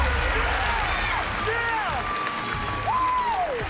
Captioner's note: cheering